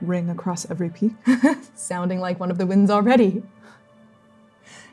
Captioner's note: laughing